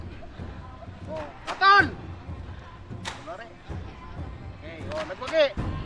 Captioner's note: referee speaks in Tagalog